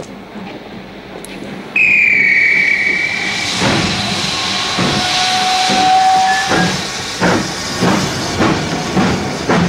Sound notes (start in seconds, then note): 1.7 whistle blows; 3.8 steam hissing as train chugs